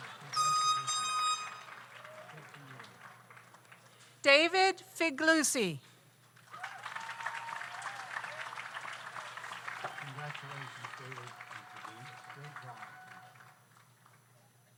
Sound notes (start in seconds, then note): 6.4 audience applauds